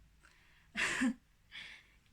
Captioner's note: laughs